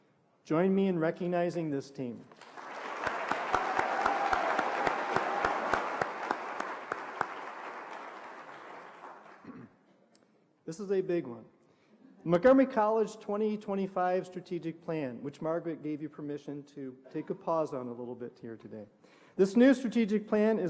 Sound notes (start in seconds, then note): 8.1 applause